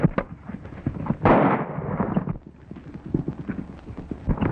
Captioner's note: horses galloping; gun fires